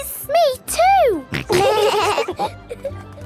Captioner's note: laughing